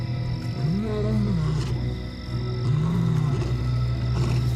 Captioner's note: lion roaring